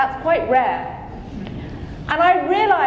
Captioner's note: audience chuckling